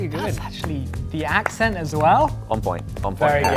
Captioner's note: claps